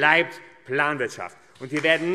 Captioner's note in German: Beifall AfD